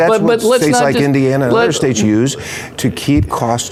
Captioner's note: laughing